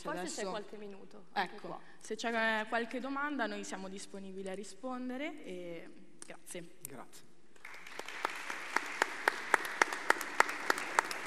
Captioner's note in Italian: Applauso